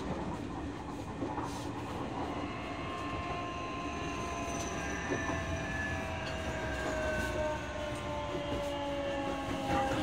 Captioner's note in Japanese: 減速音